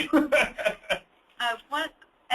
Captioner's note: laughs